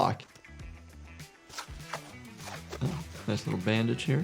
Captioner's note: upbeat music; bandage swishing